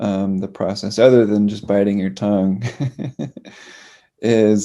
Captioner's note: laughs